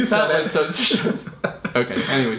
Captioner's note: laughs